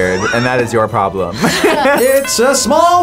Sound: both laugh

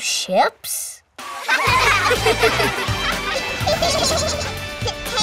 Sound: laughing

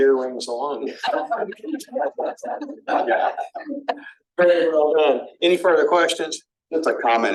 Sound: laughter

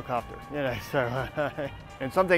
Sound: chuckles

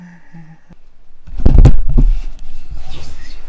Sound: whines in pain; thud

